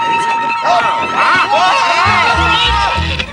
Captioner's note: all exclaiming